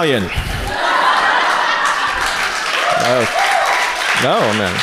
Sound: audience cheers

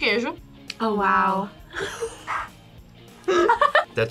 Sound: laughs

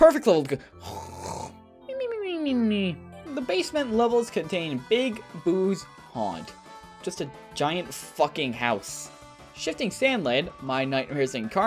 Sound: snore

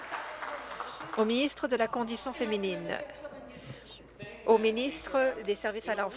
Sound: applause

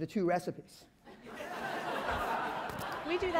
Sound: laughter

